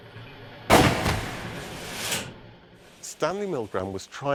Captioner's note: gunfire blasting